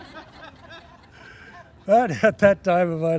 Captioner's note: laughing